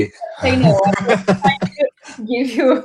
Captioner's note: laughter